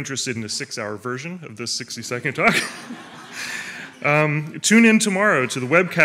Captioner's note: laughs